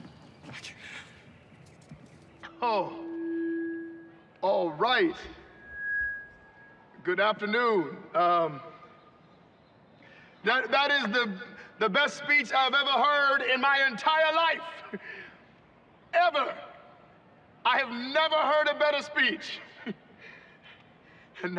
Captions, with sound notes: I CAN, UH... OH. [feedback] ALL RIGHT. [shrill feedback] GOOD AFTERNOON. UM... THAT--THAT IS THE-- THE BEST SPEECH I'VE EVER HEARD IN MY ENTIRE LIFE. [chuckles] EVER. I HAVE NEVER HEARD A BETTER SPEECH. [chuckles]